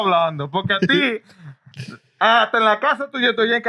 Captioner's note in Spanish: Hablando en idioma extranjero